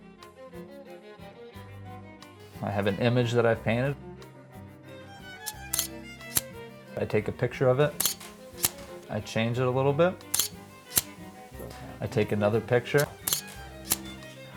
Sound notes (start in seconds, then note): 5.4 camera snaps; 7.8 camera snaps